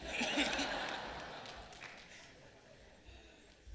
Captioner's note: laughing